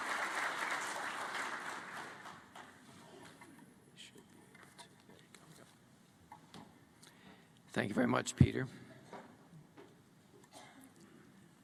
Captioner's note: applause